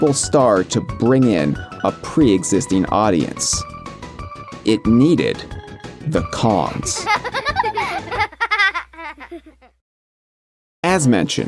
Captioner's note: children laughing